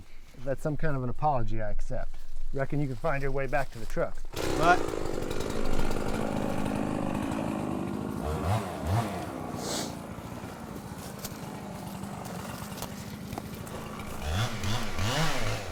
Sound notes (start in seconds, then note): 4.5 chainsaw rumbles